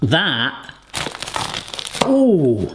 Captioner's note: crunching